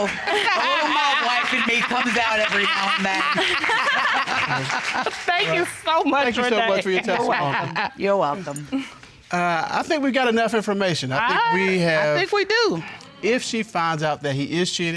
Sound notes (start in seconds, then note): 3.5 chuckles; 3.5 judge chuckling